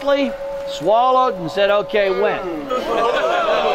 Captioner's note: players Booing in background